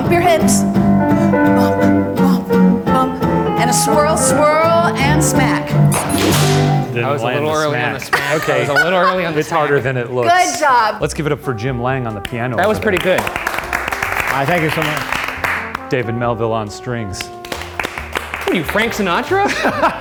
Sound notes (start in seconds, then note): 4.3 squeaking noise; 12.6 applause; 17.2 applause; 19.3 laughing